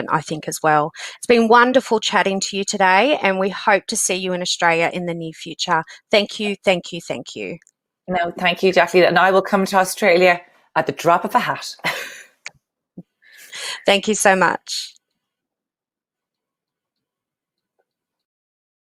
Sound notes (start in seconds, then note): 13.0 laughs